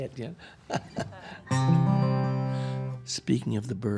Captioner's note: chuckling